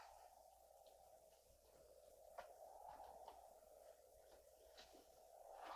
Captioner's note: wind continues whooshing